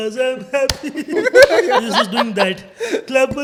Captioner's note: laughing